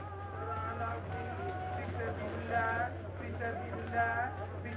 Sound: speaking foreign language

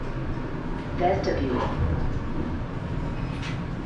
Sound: elevator voice

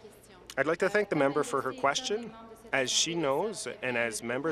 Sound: speaking in French

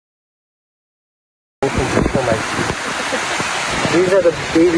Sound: laughs

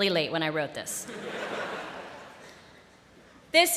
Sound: laughter

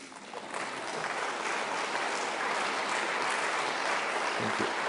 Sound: applause

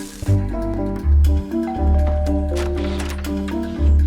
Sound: doorbell rings

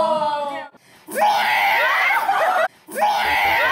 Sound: screeching

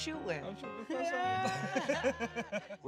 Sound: both laughing

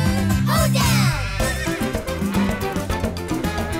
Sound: neighing

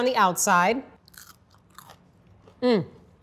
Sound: fry crunching

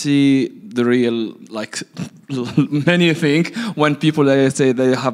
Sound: laughs

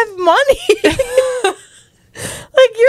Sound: panel laughing

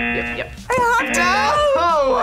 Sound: buzzer rings

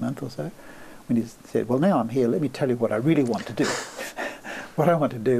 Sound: laughs

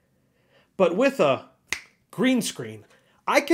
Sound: snap

